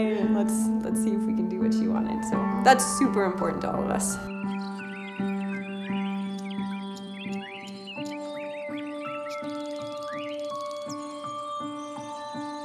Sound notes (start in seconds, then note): 4.4 birds chirping